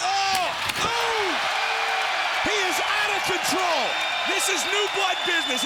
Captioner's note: crowd cheering